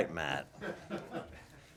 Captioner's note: laughter